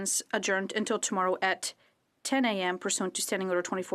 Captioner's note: speaking French